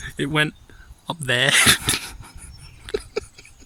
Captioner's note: classic laugh